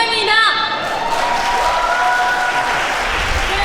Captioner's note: cheer